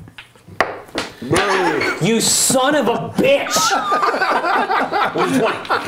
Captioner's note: die falls on floor; laughter